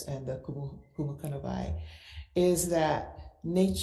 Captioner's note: speaks foreign language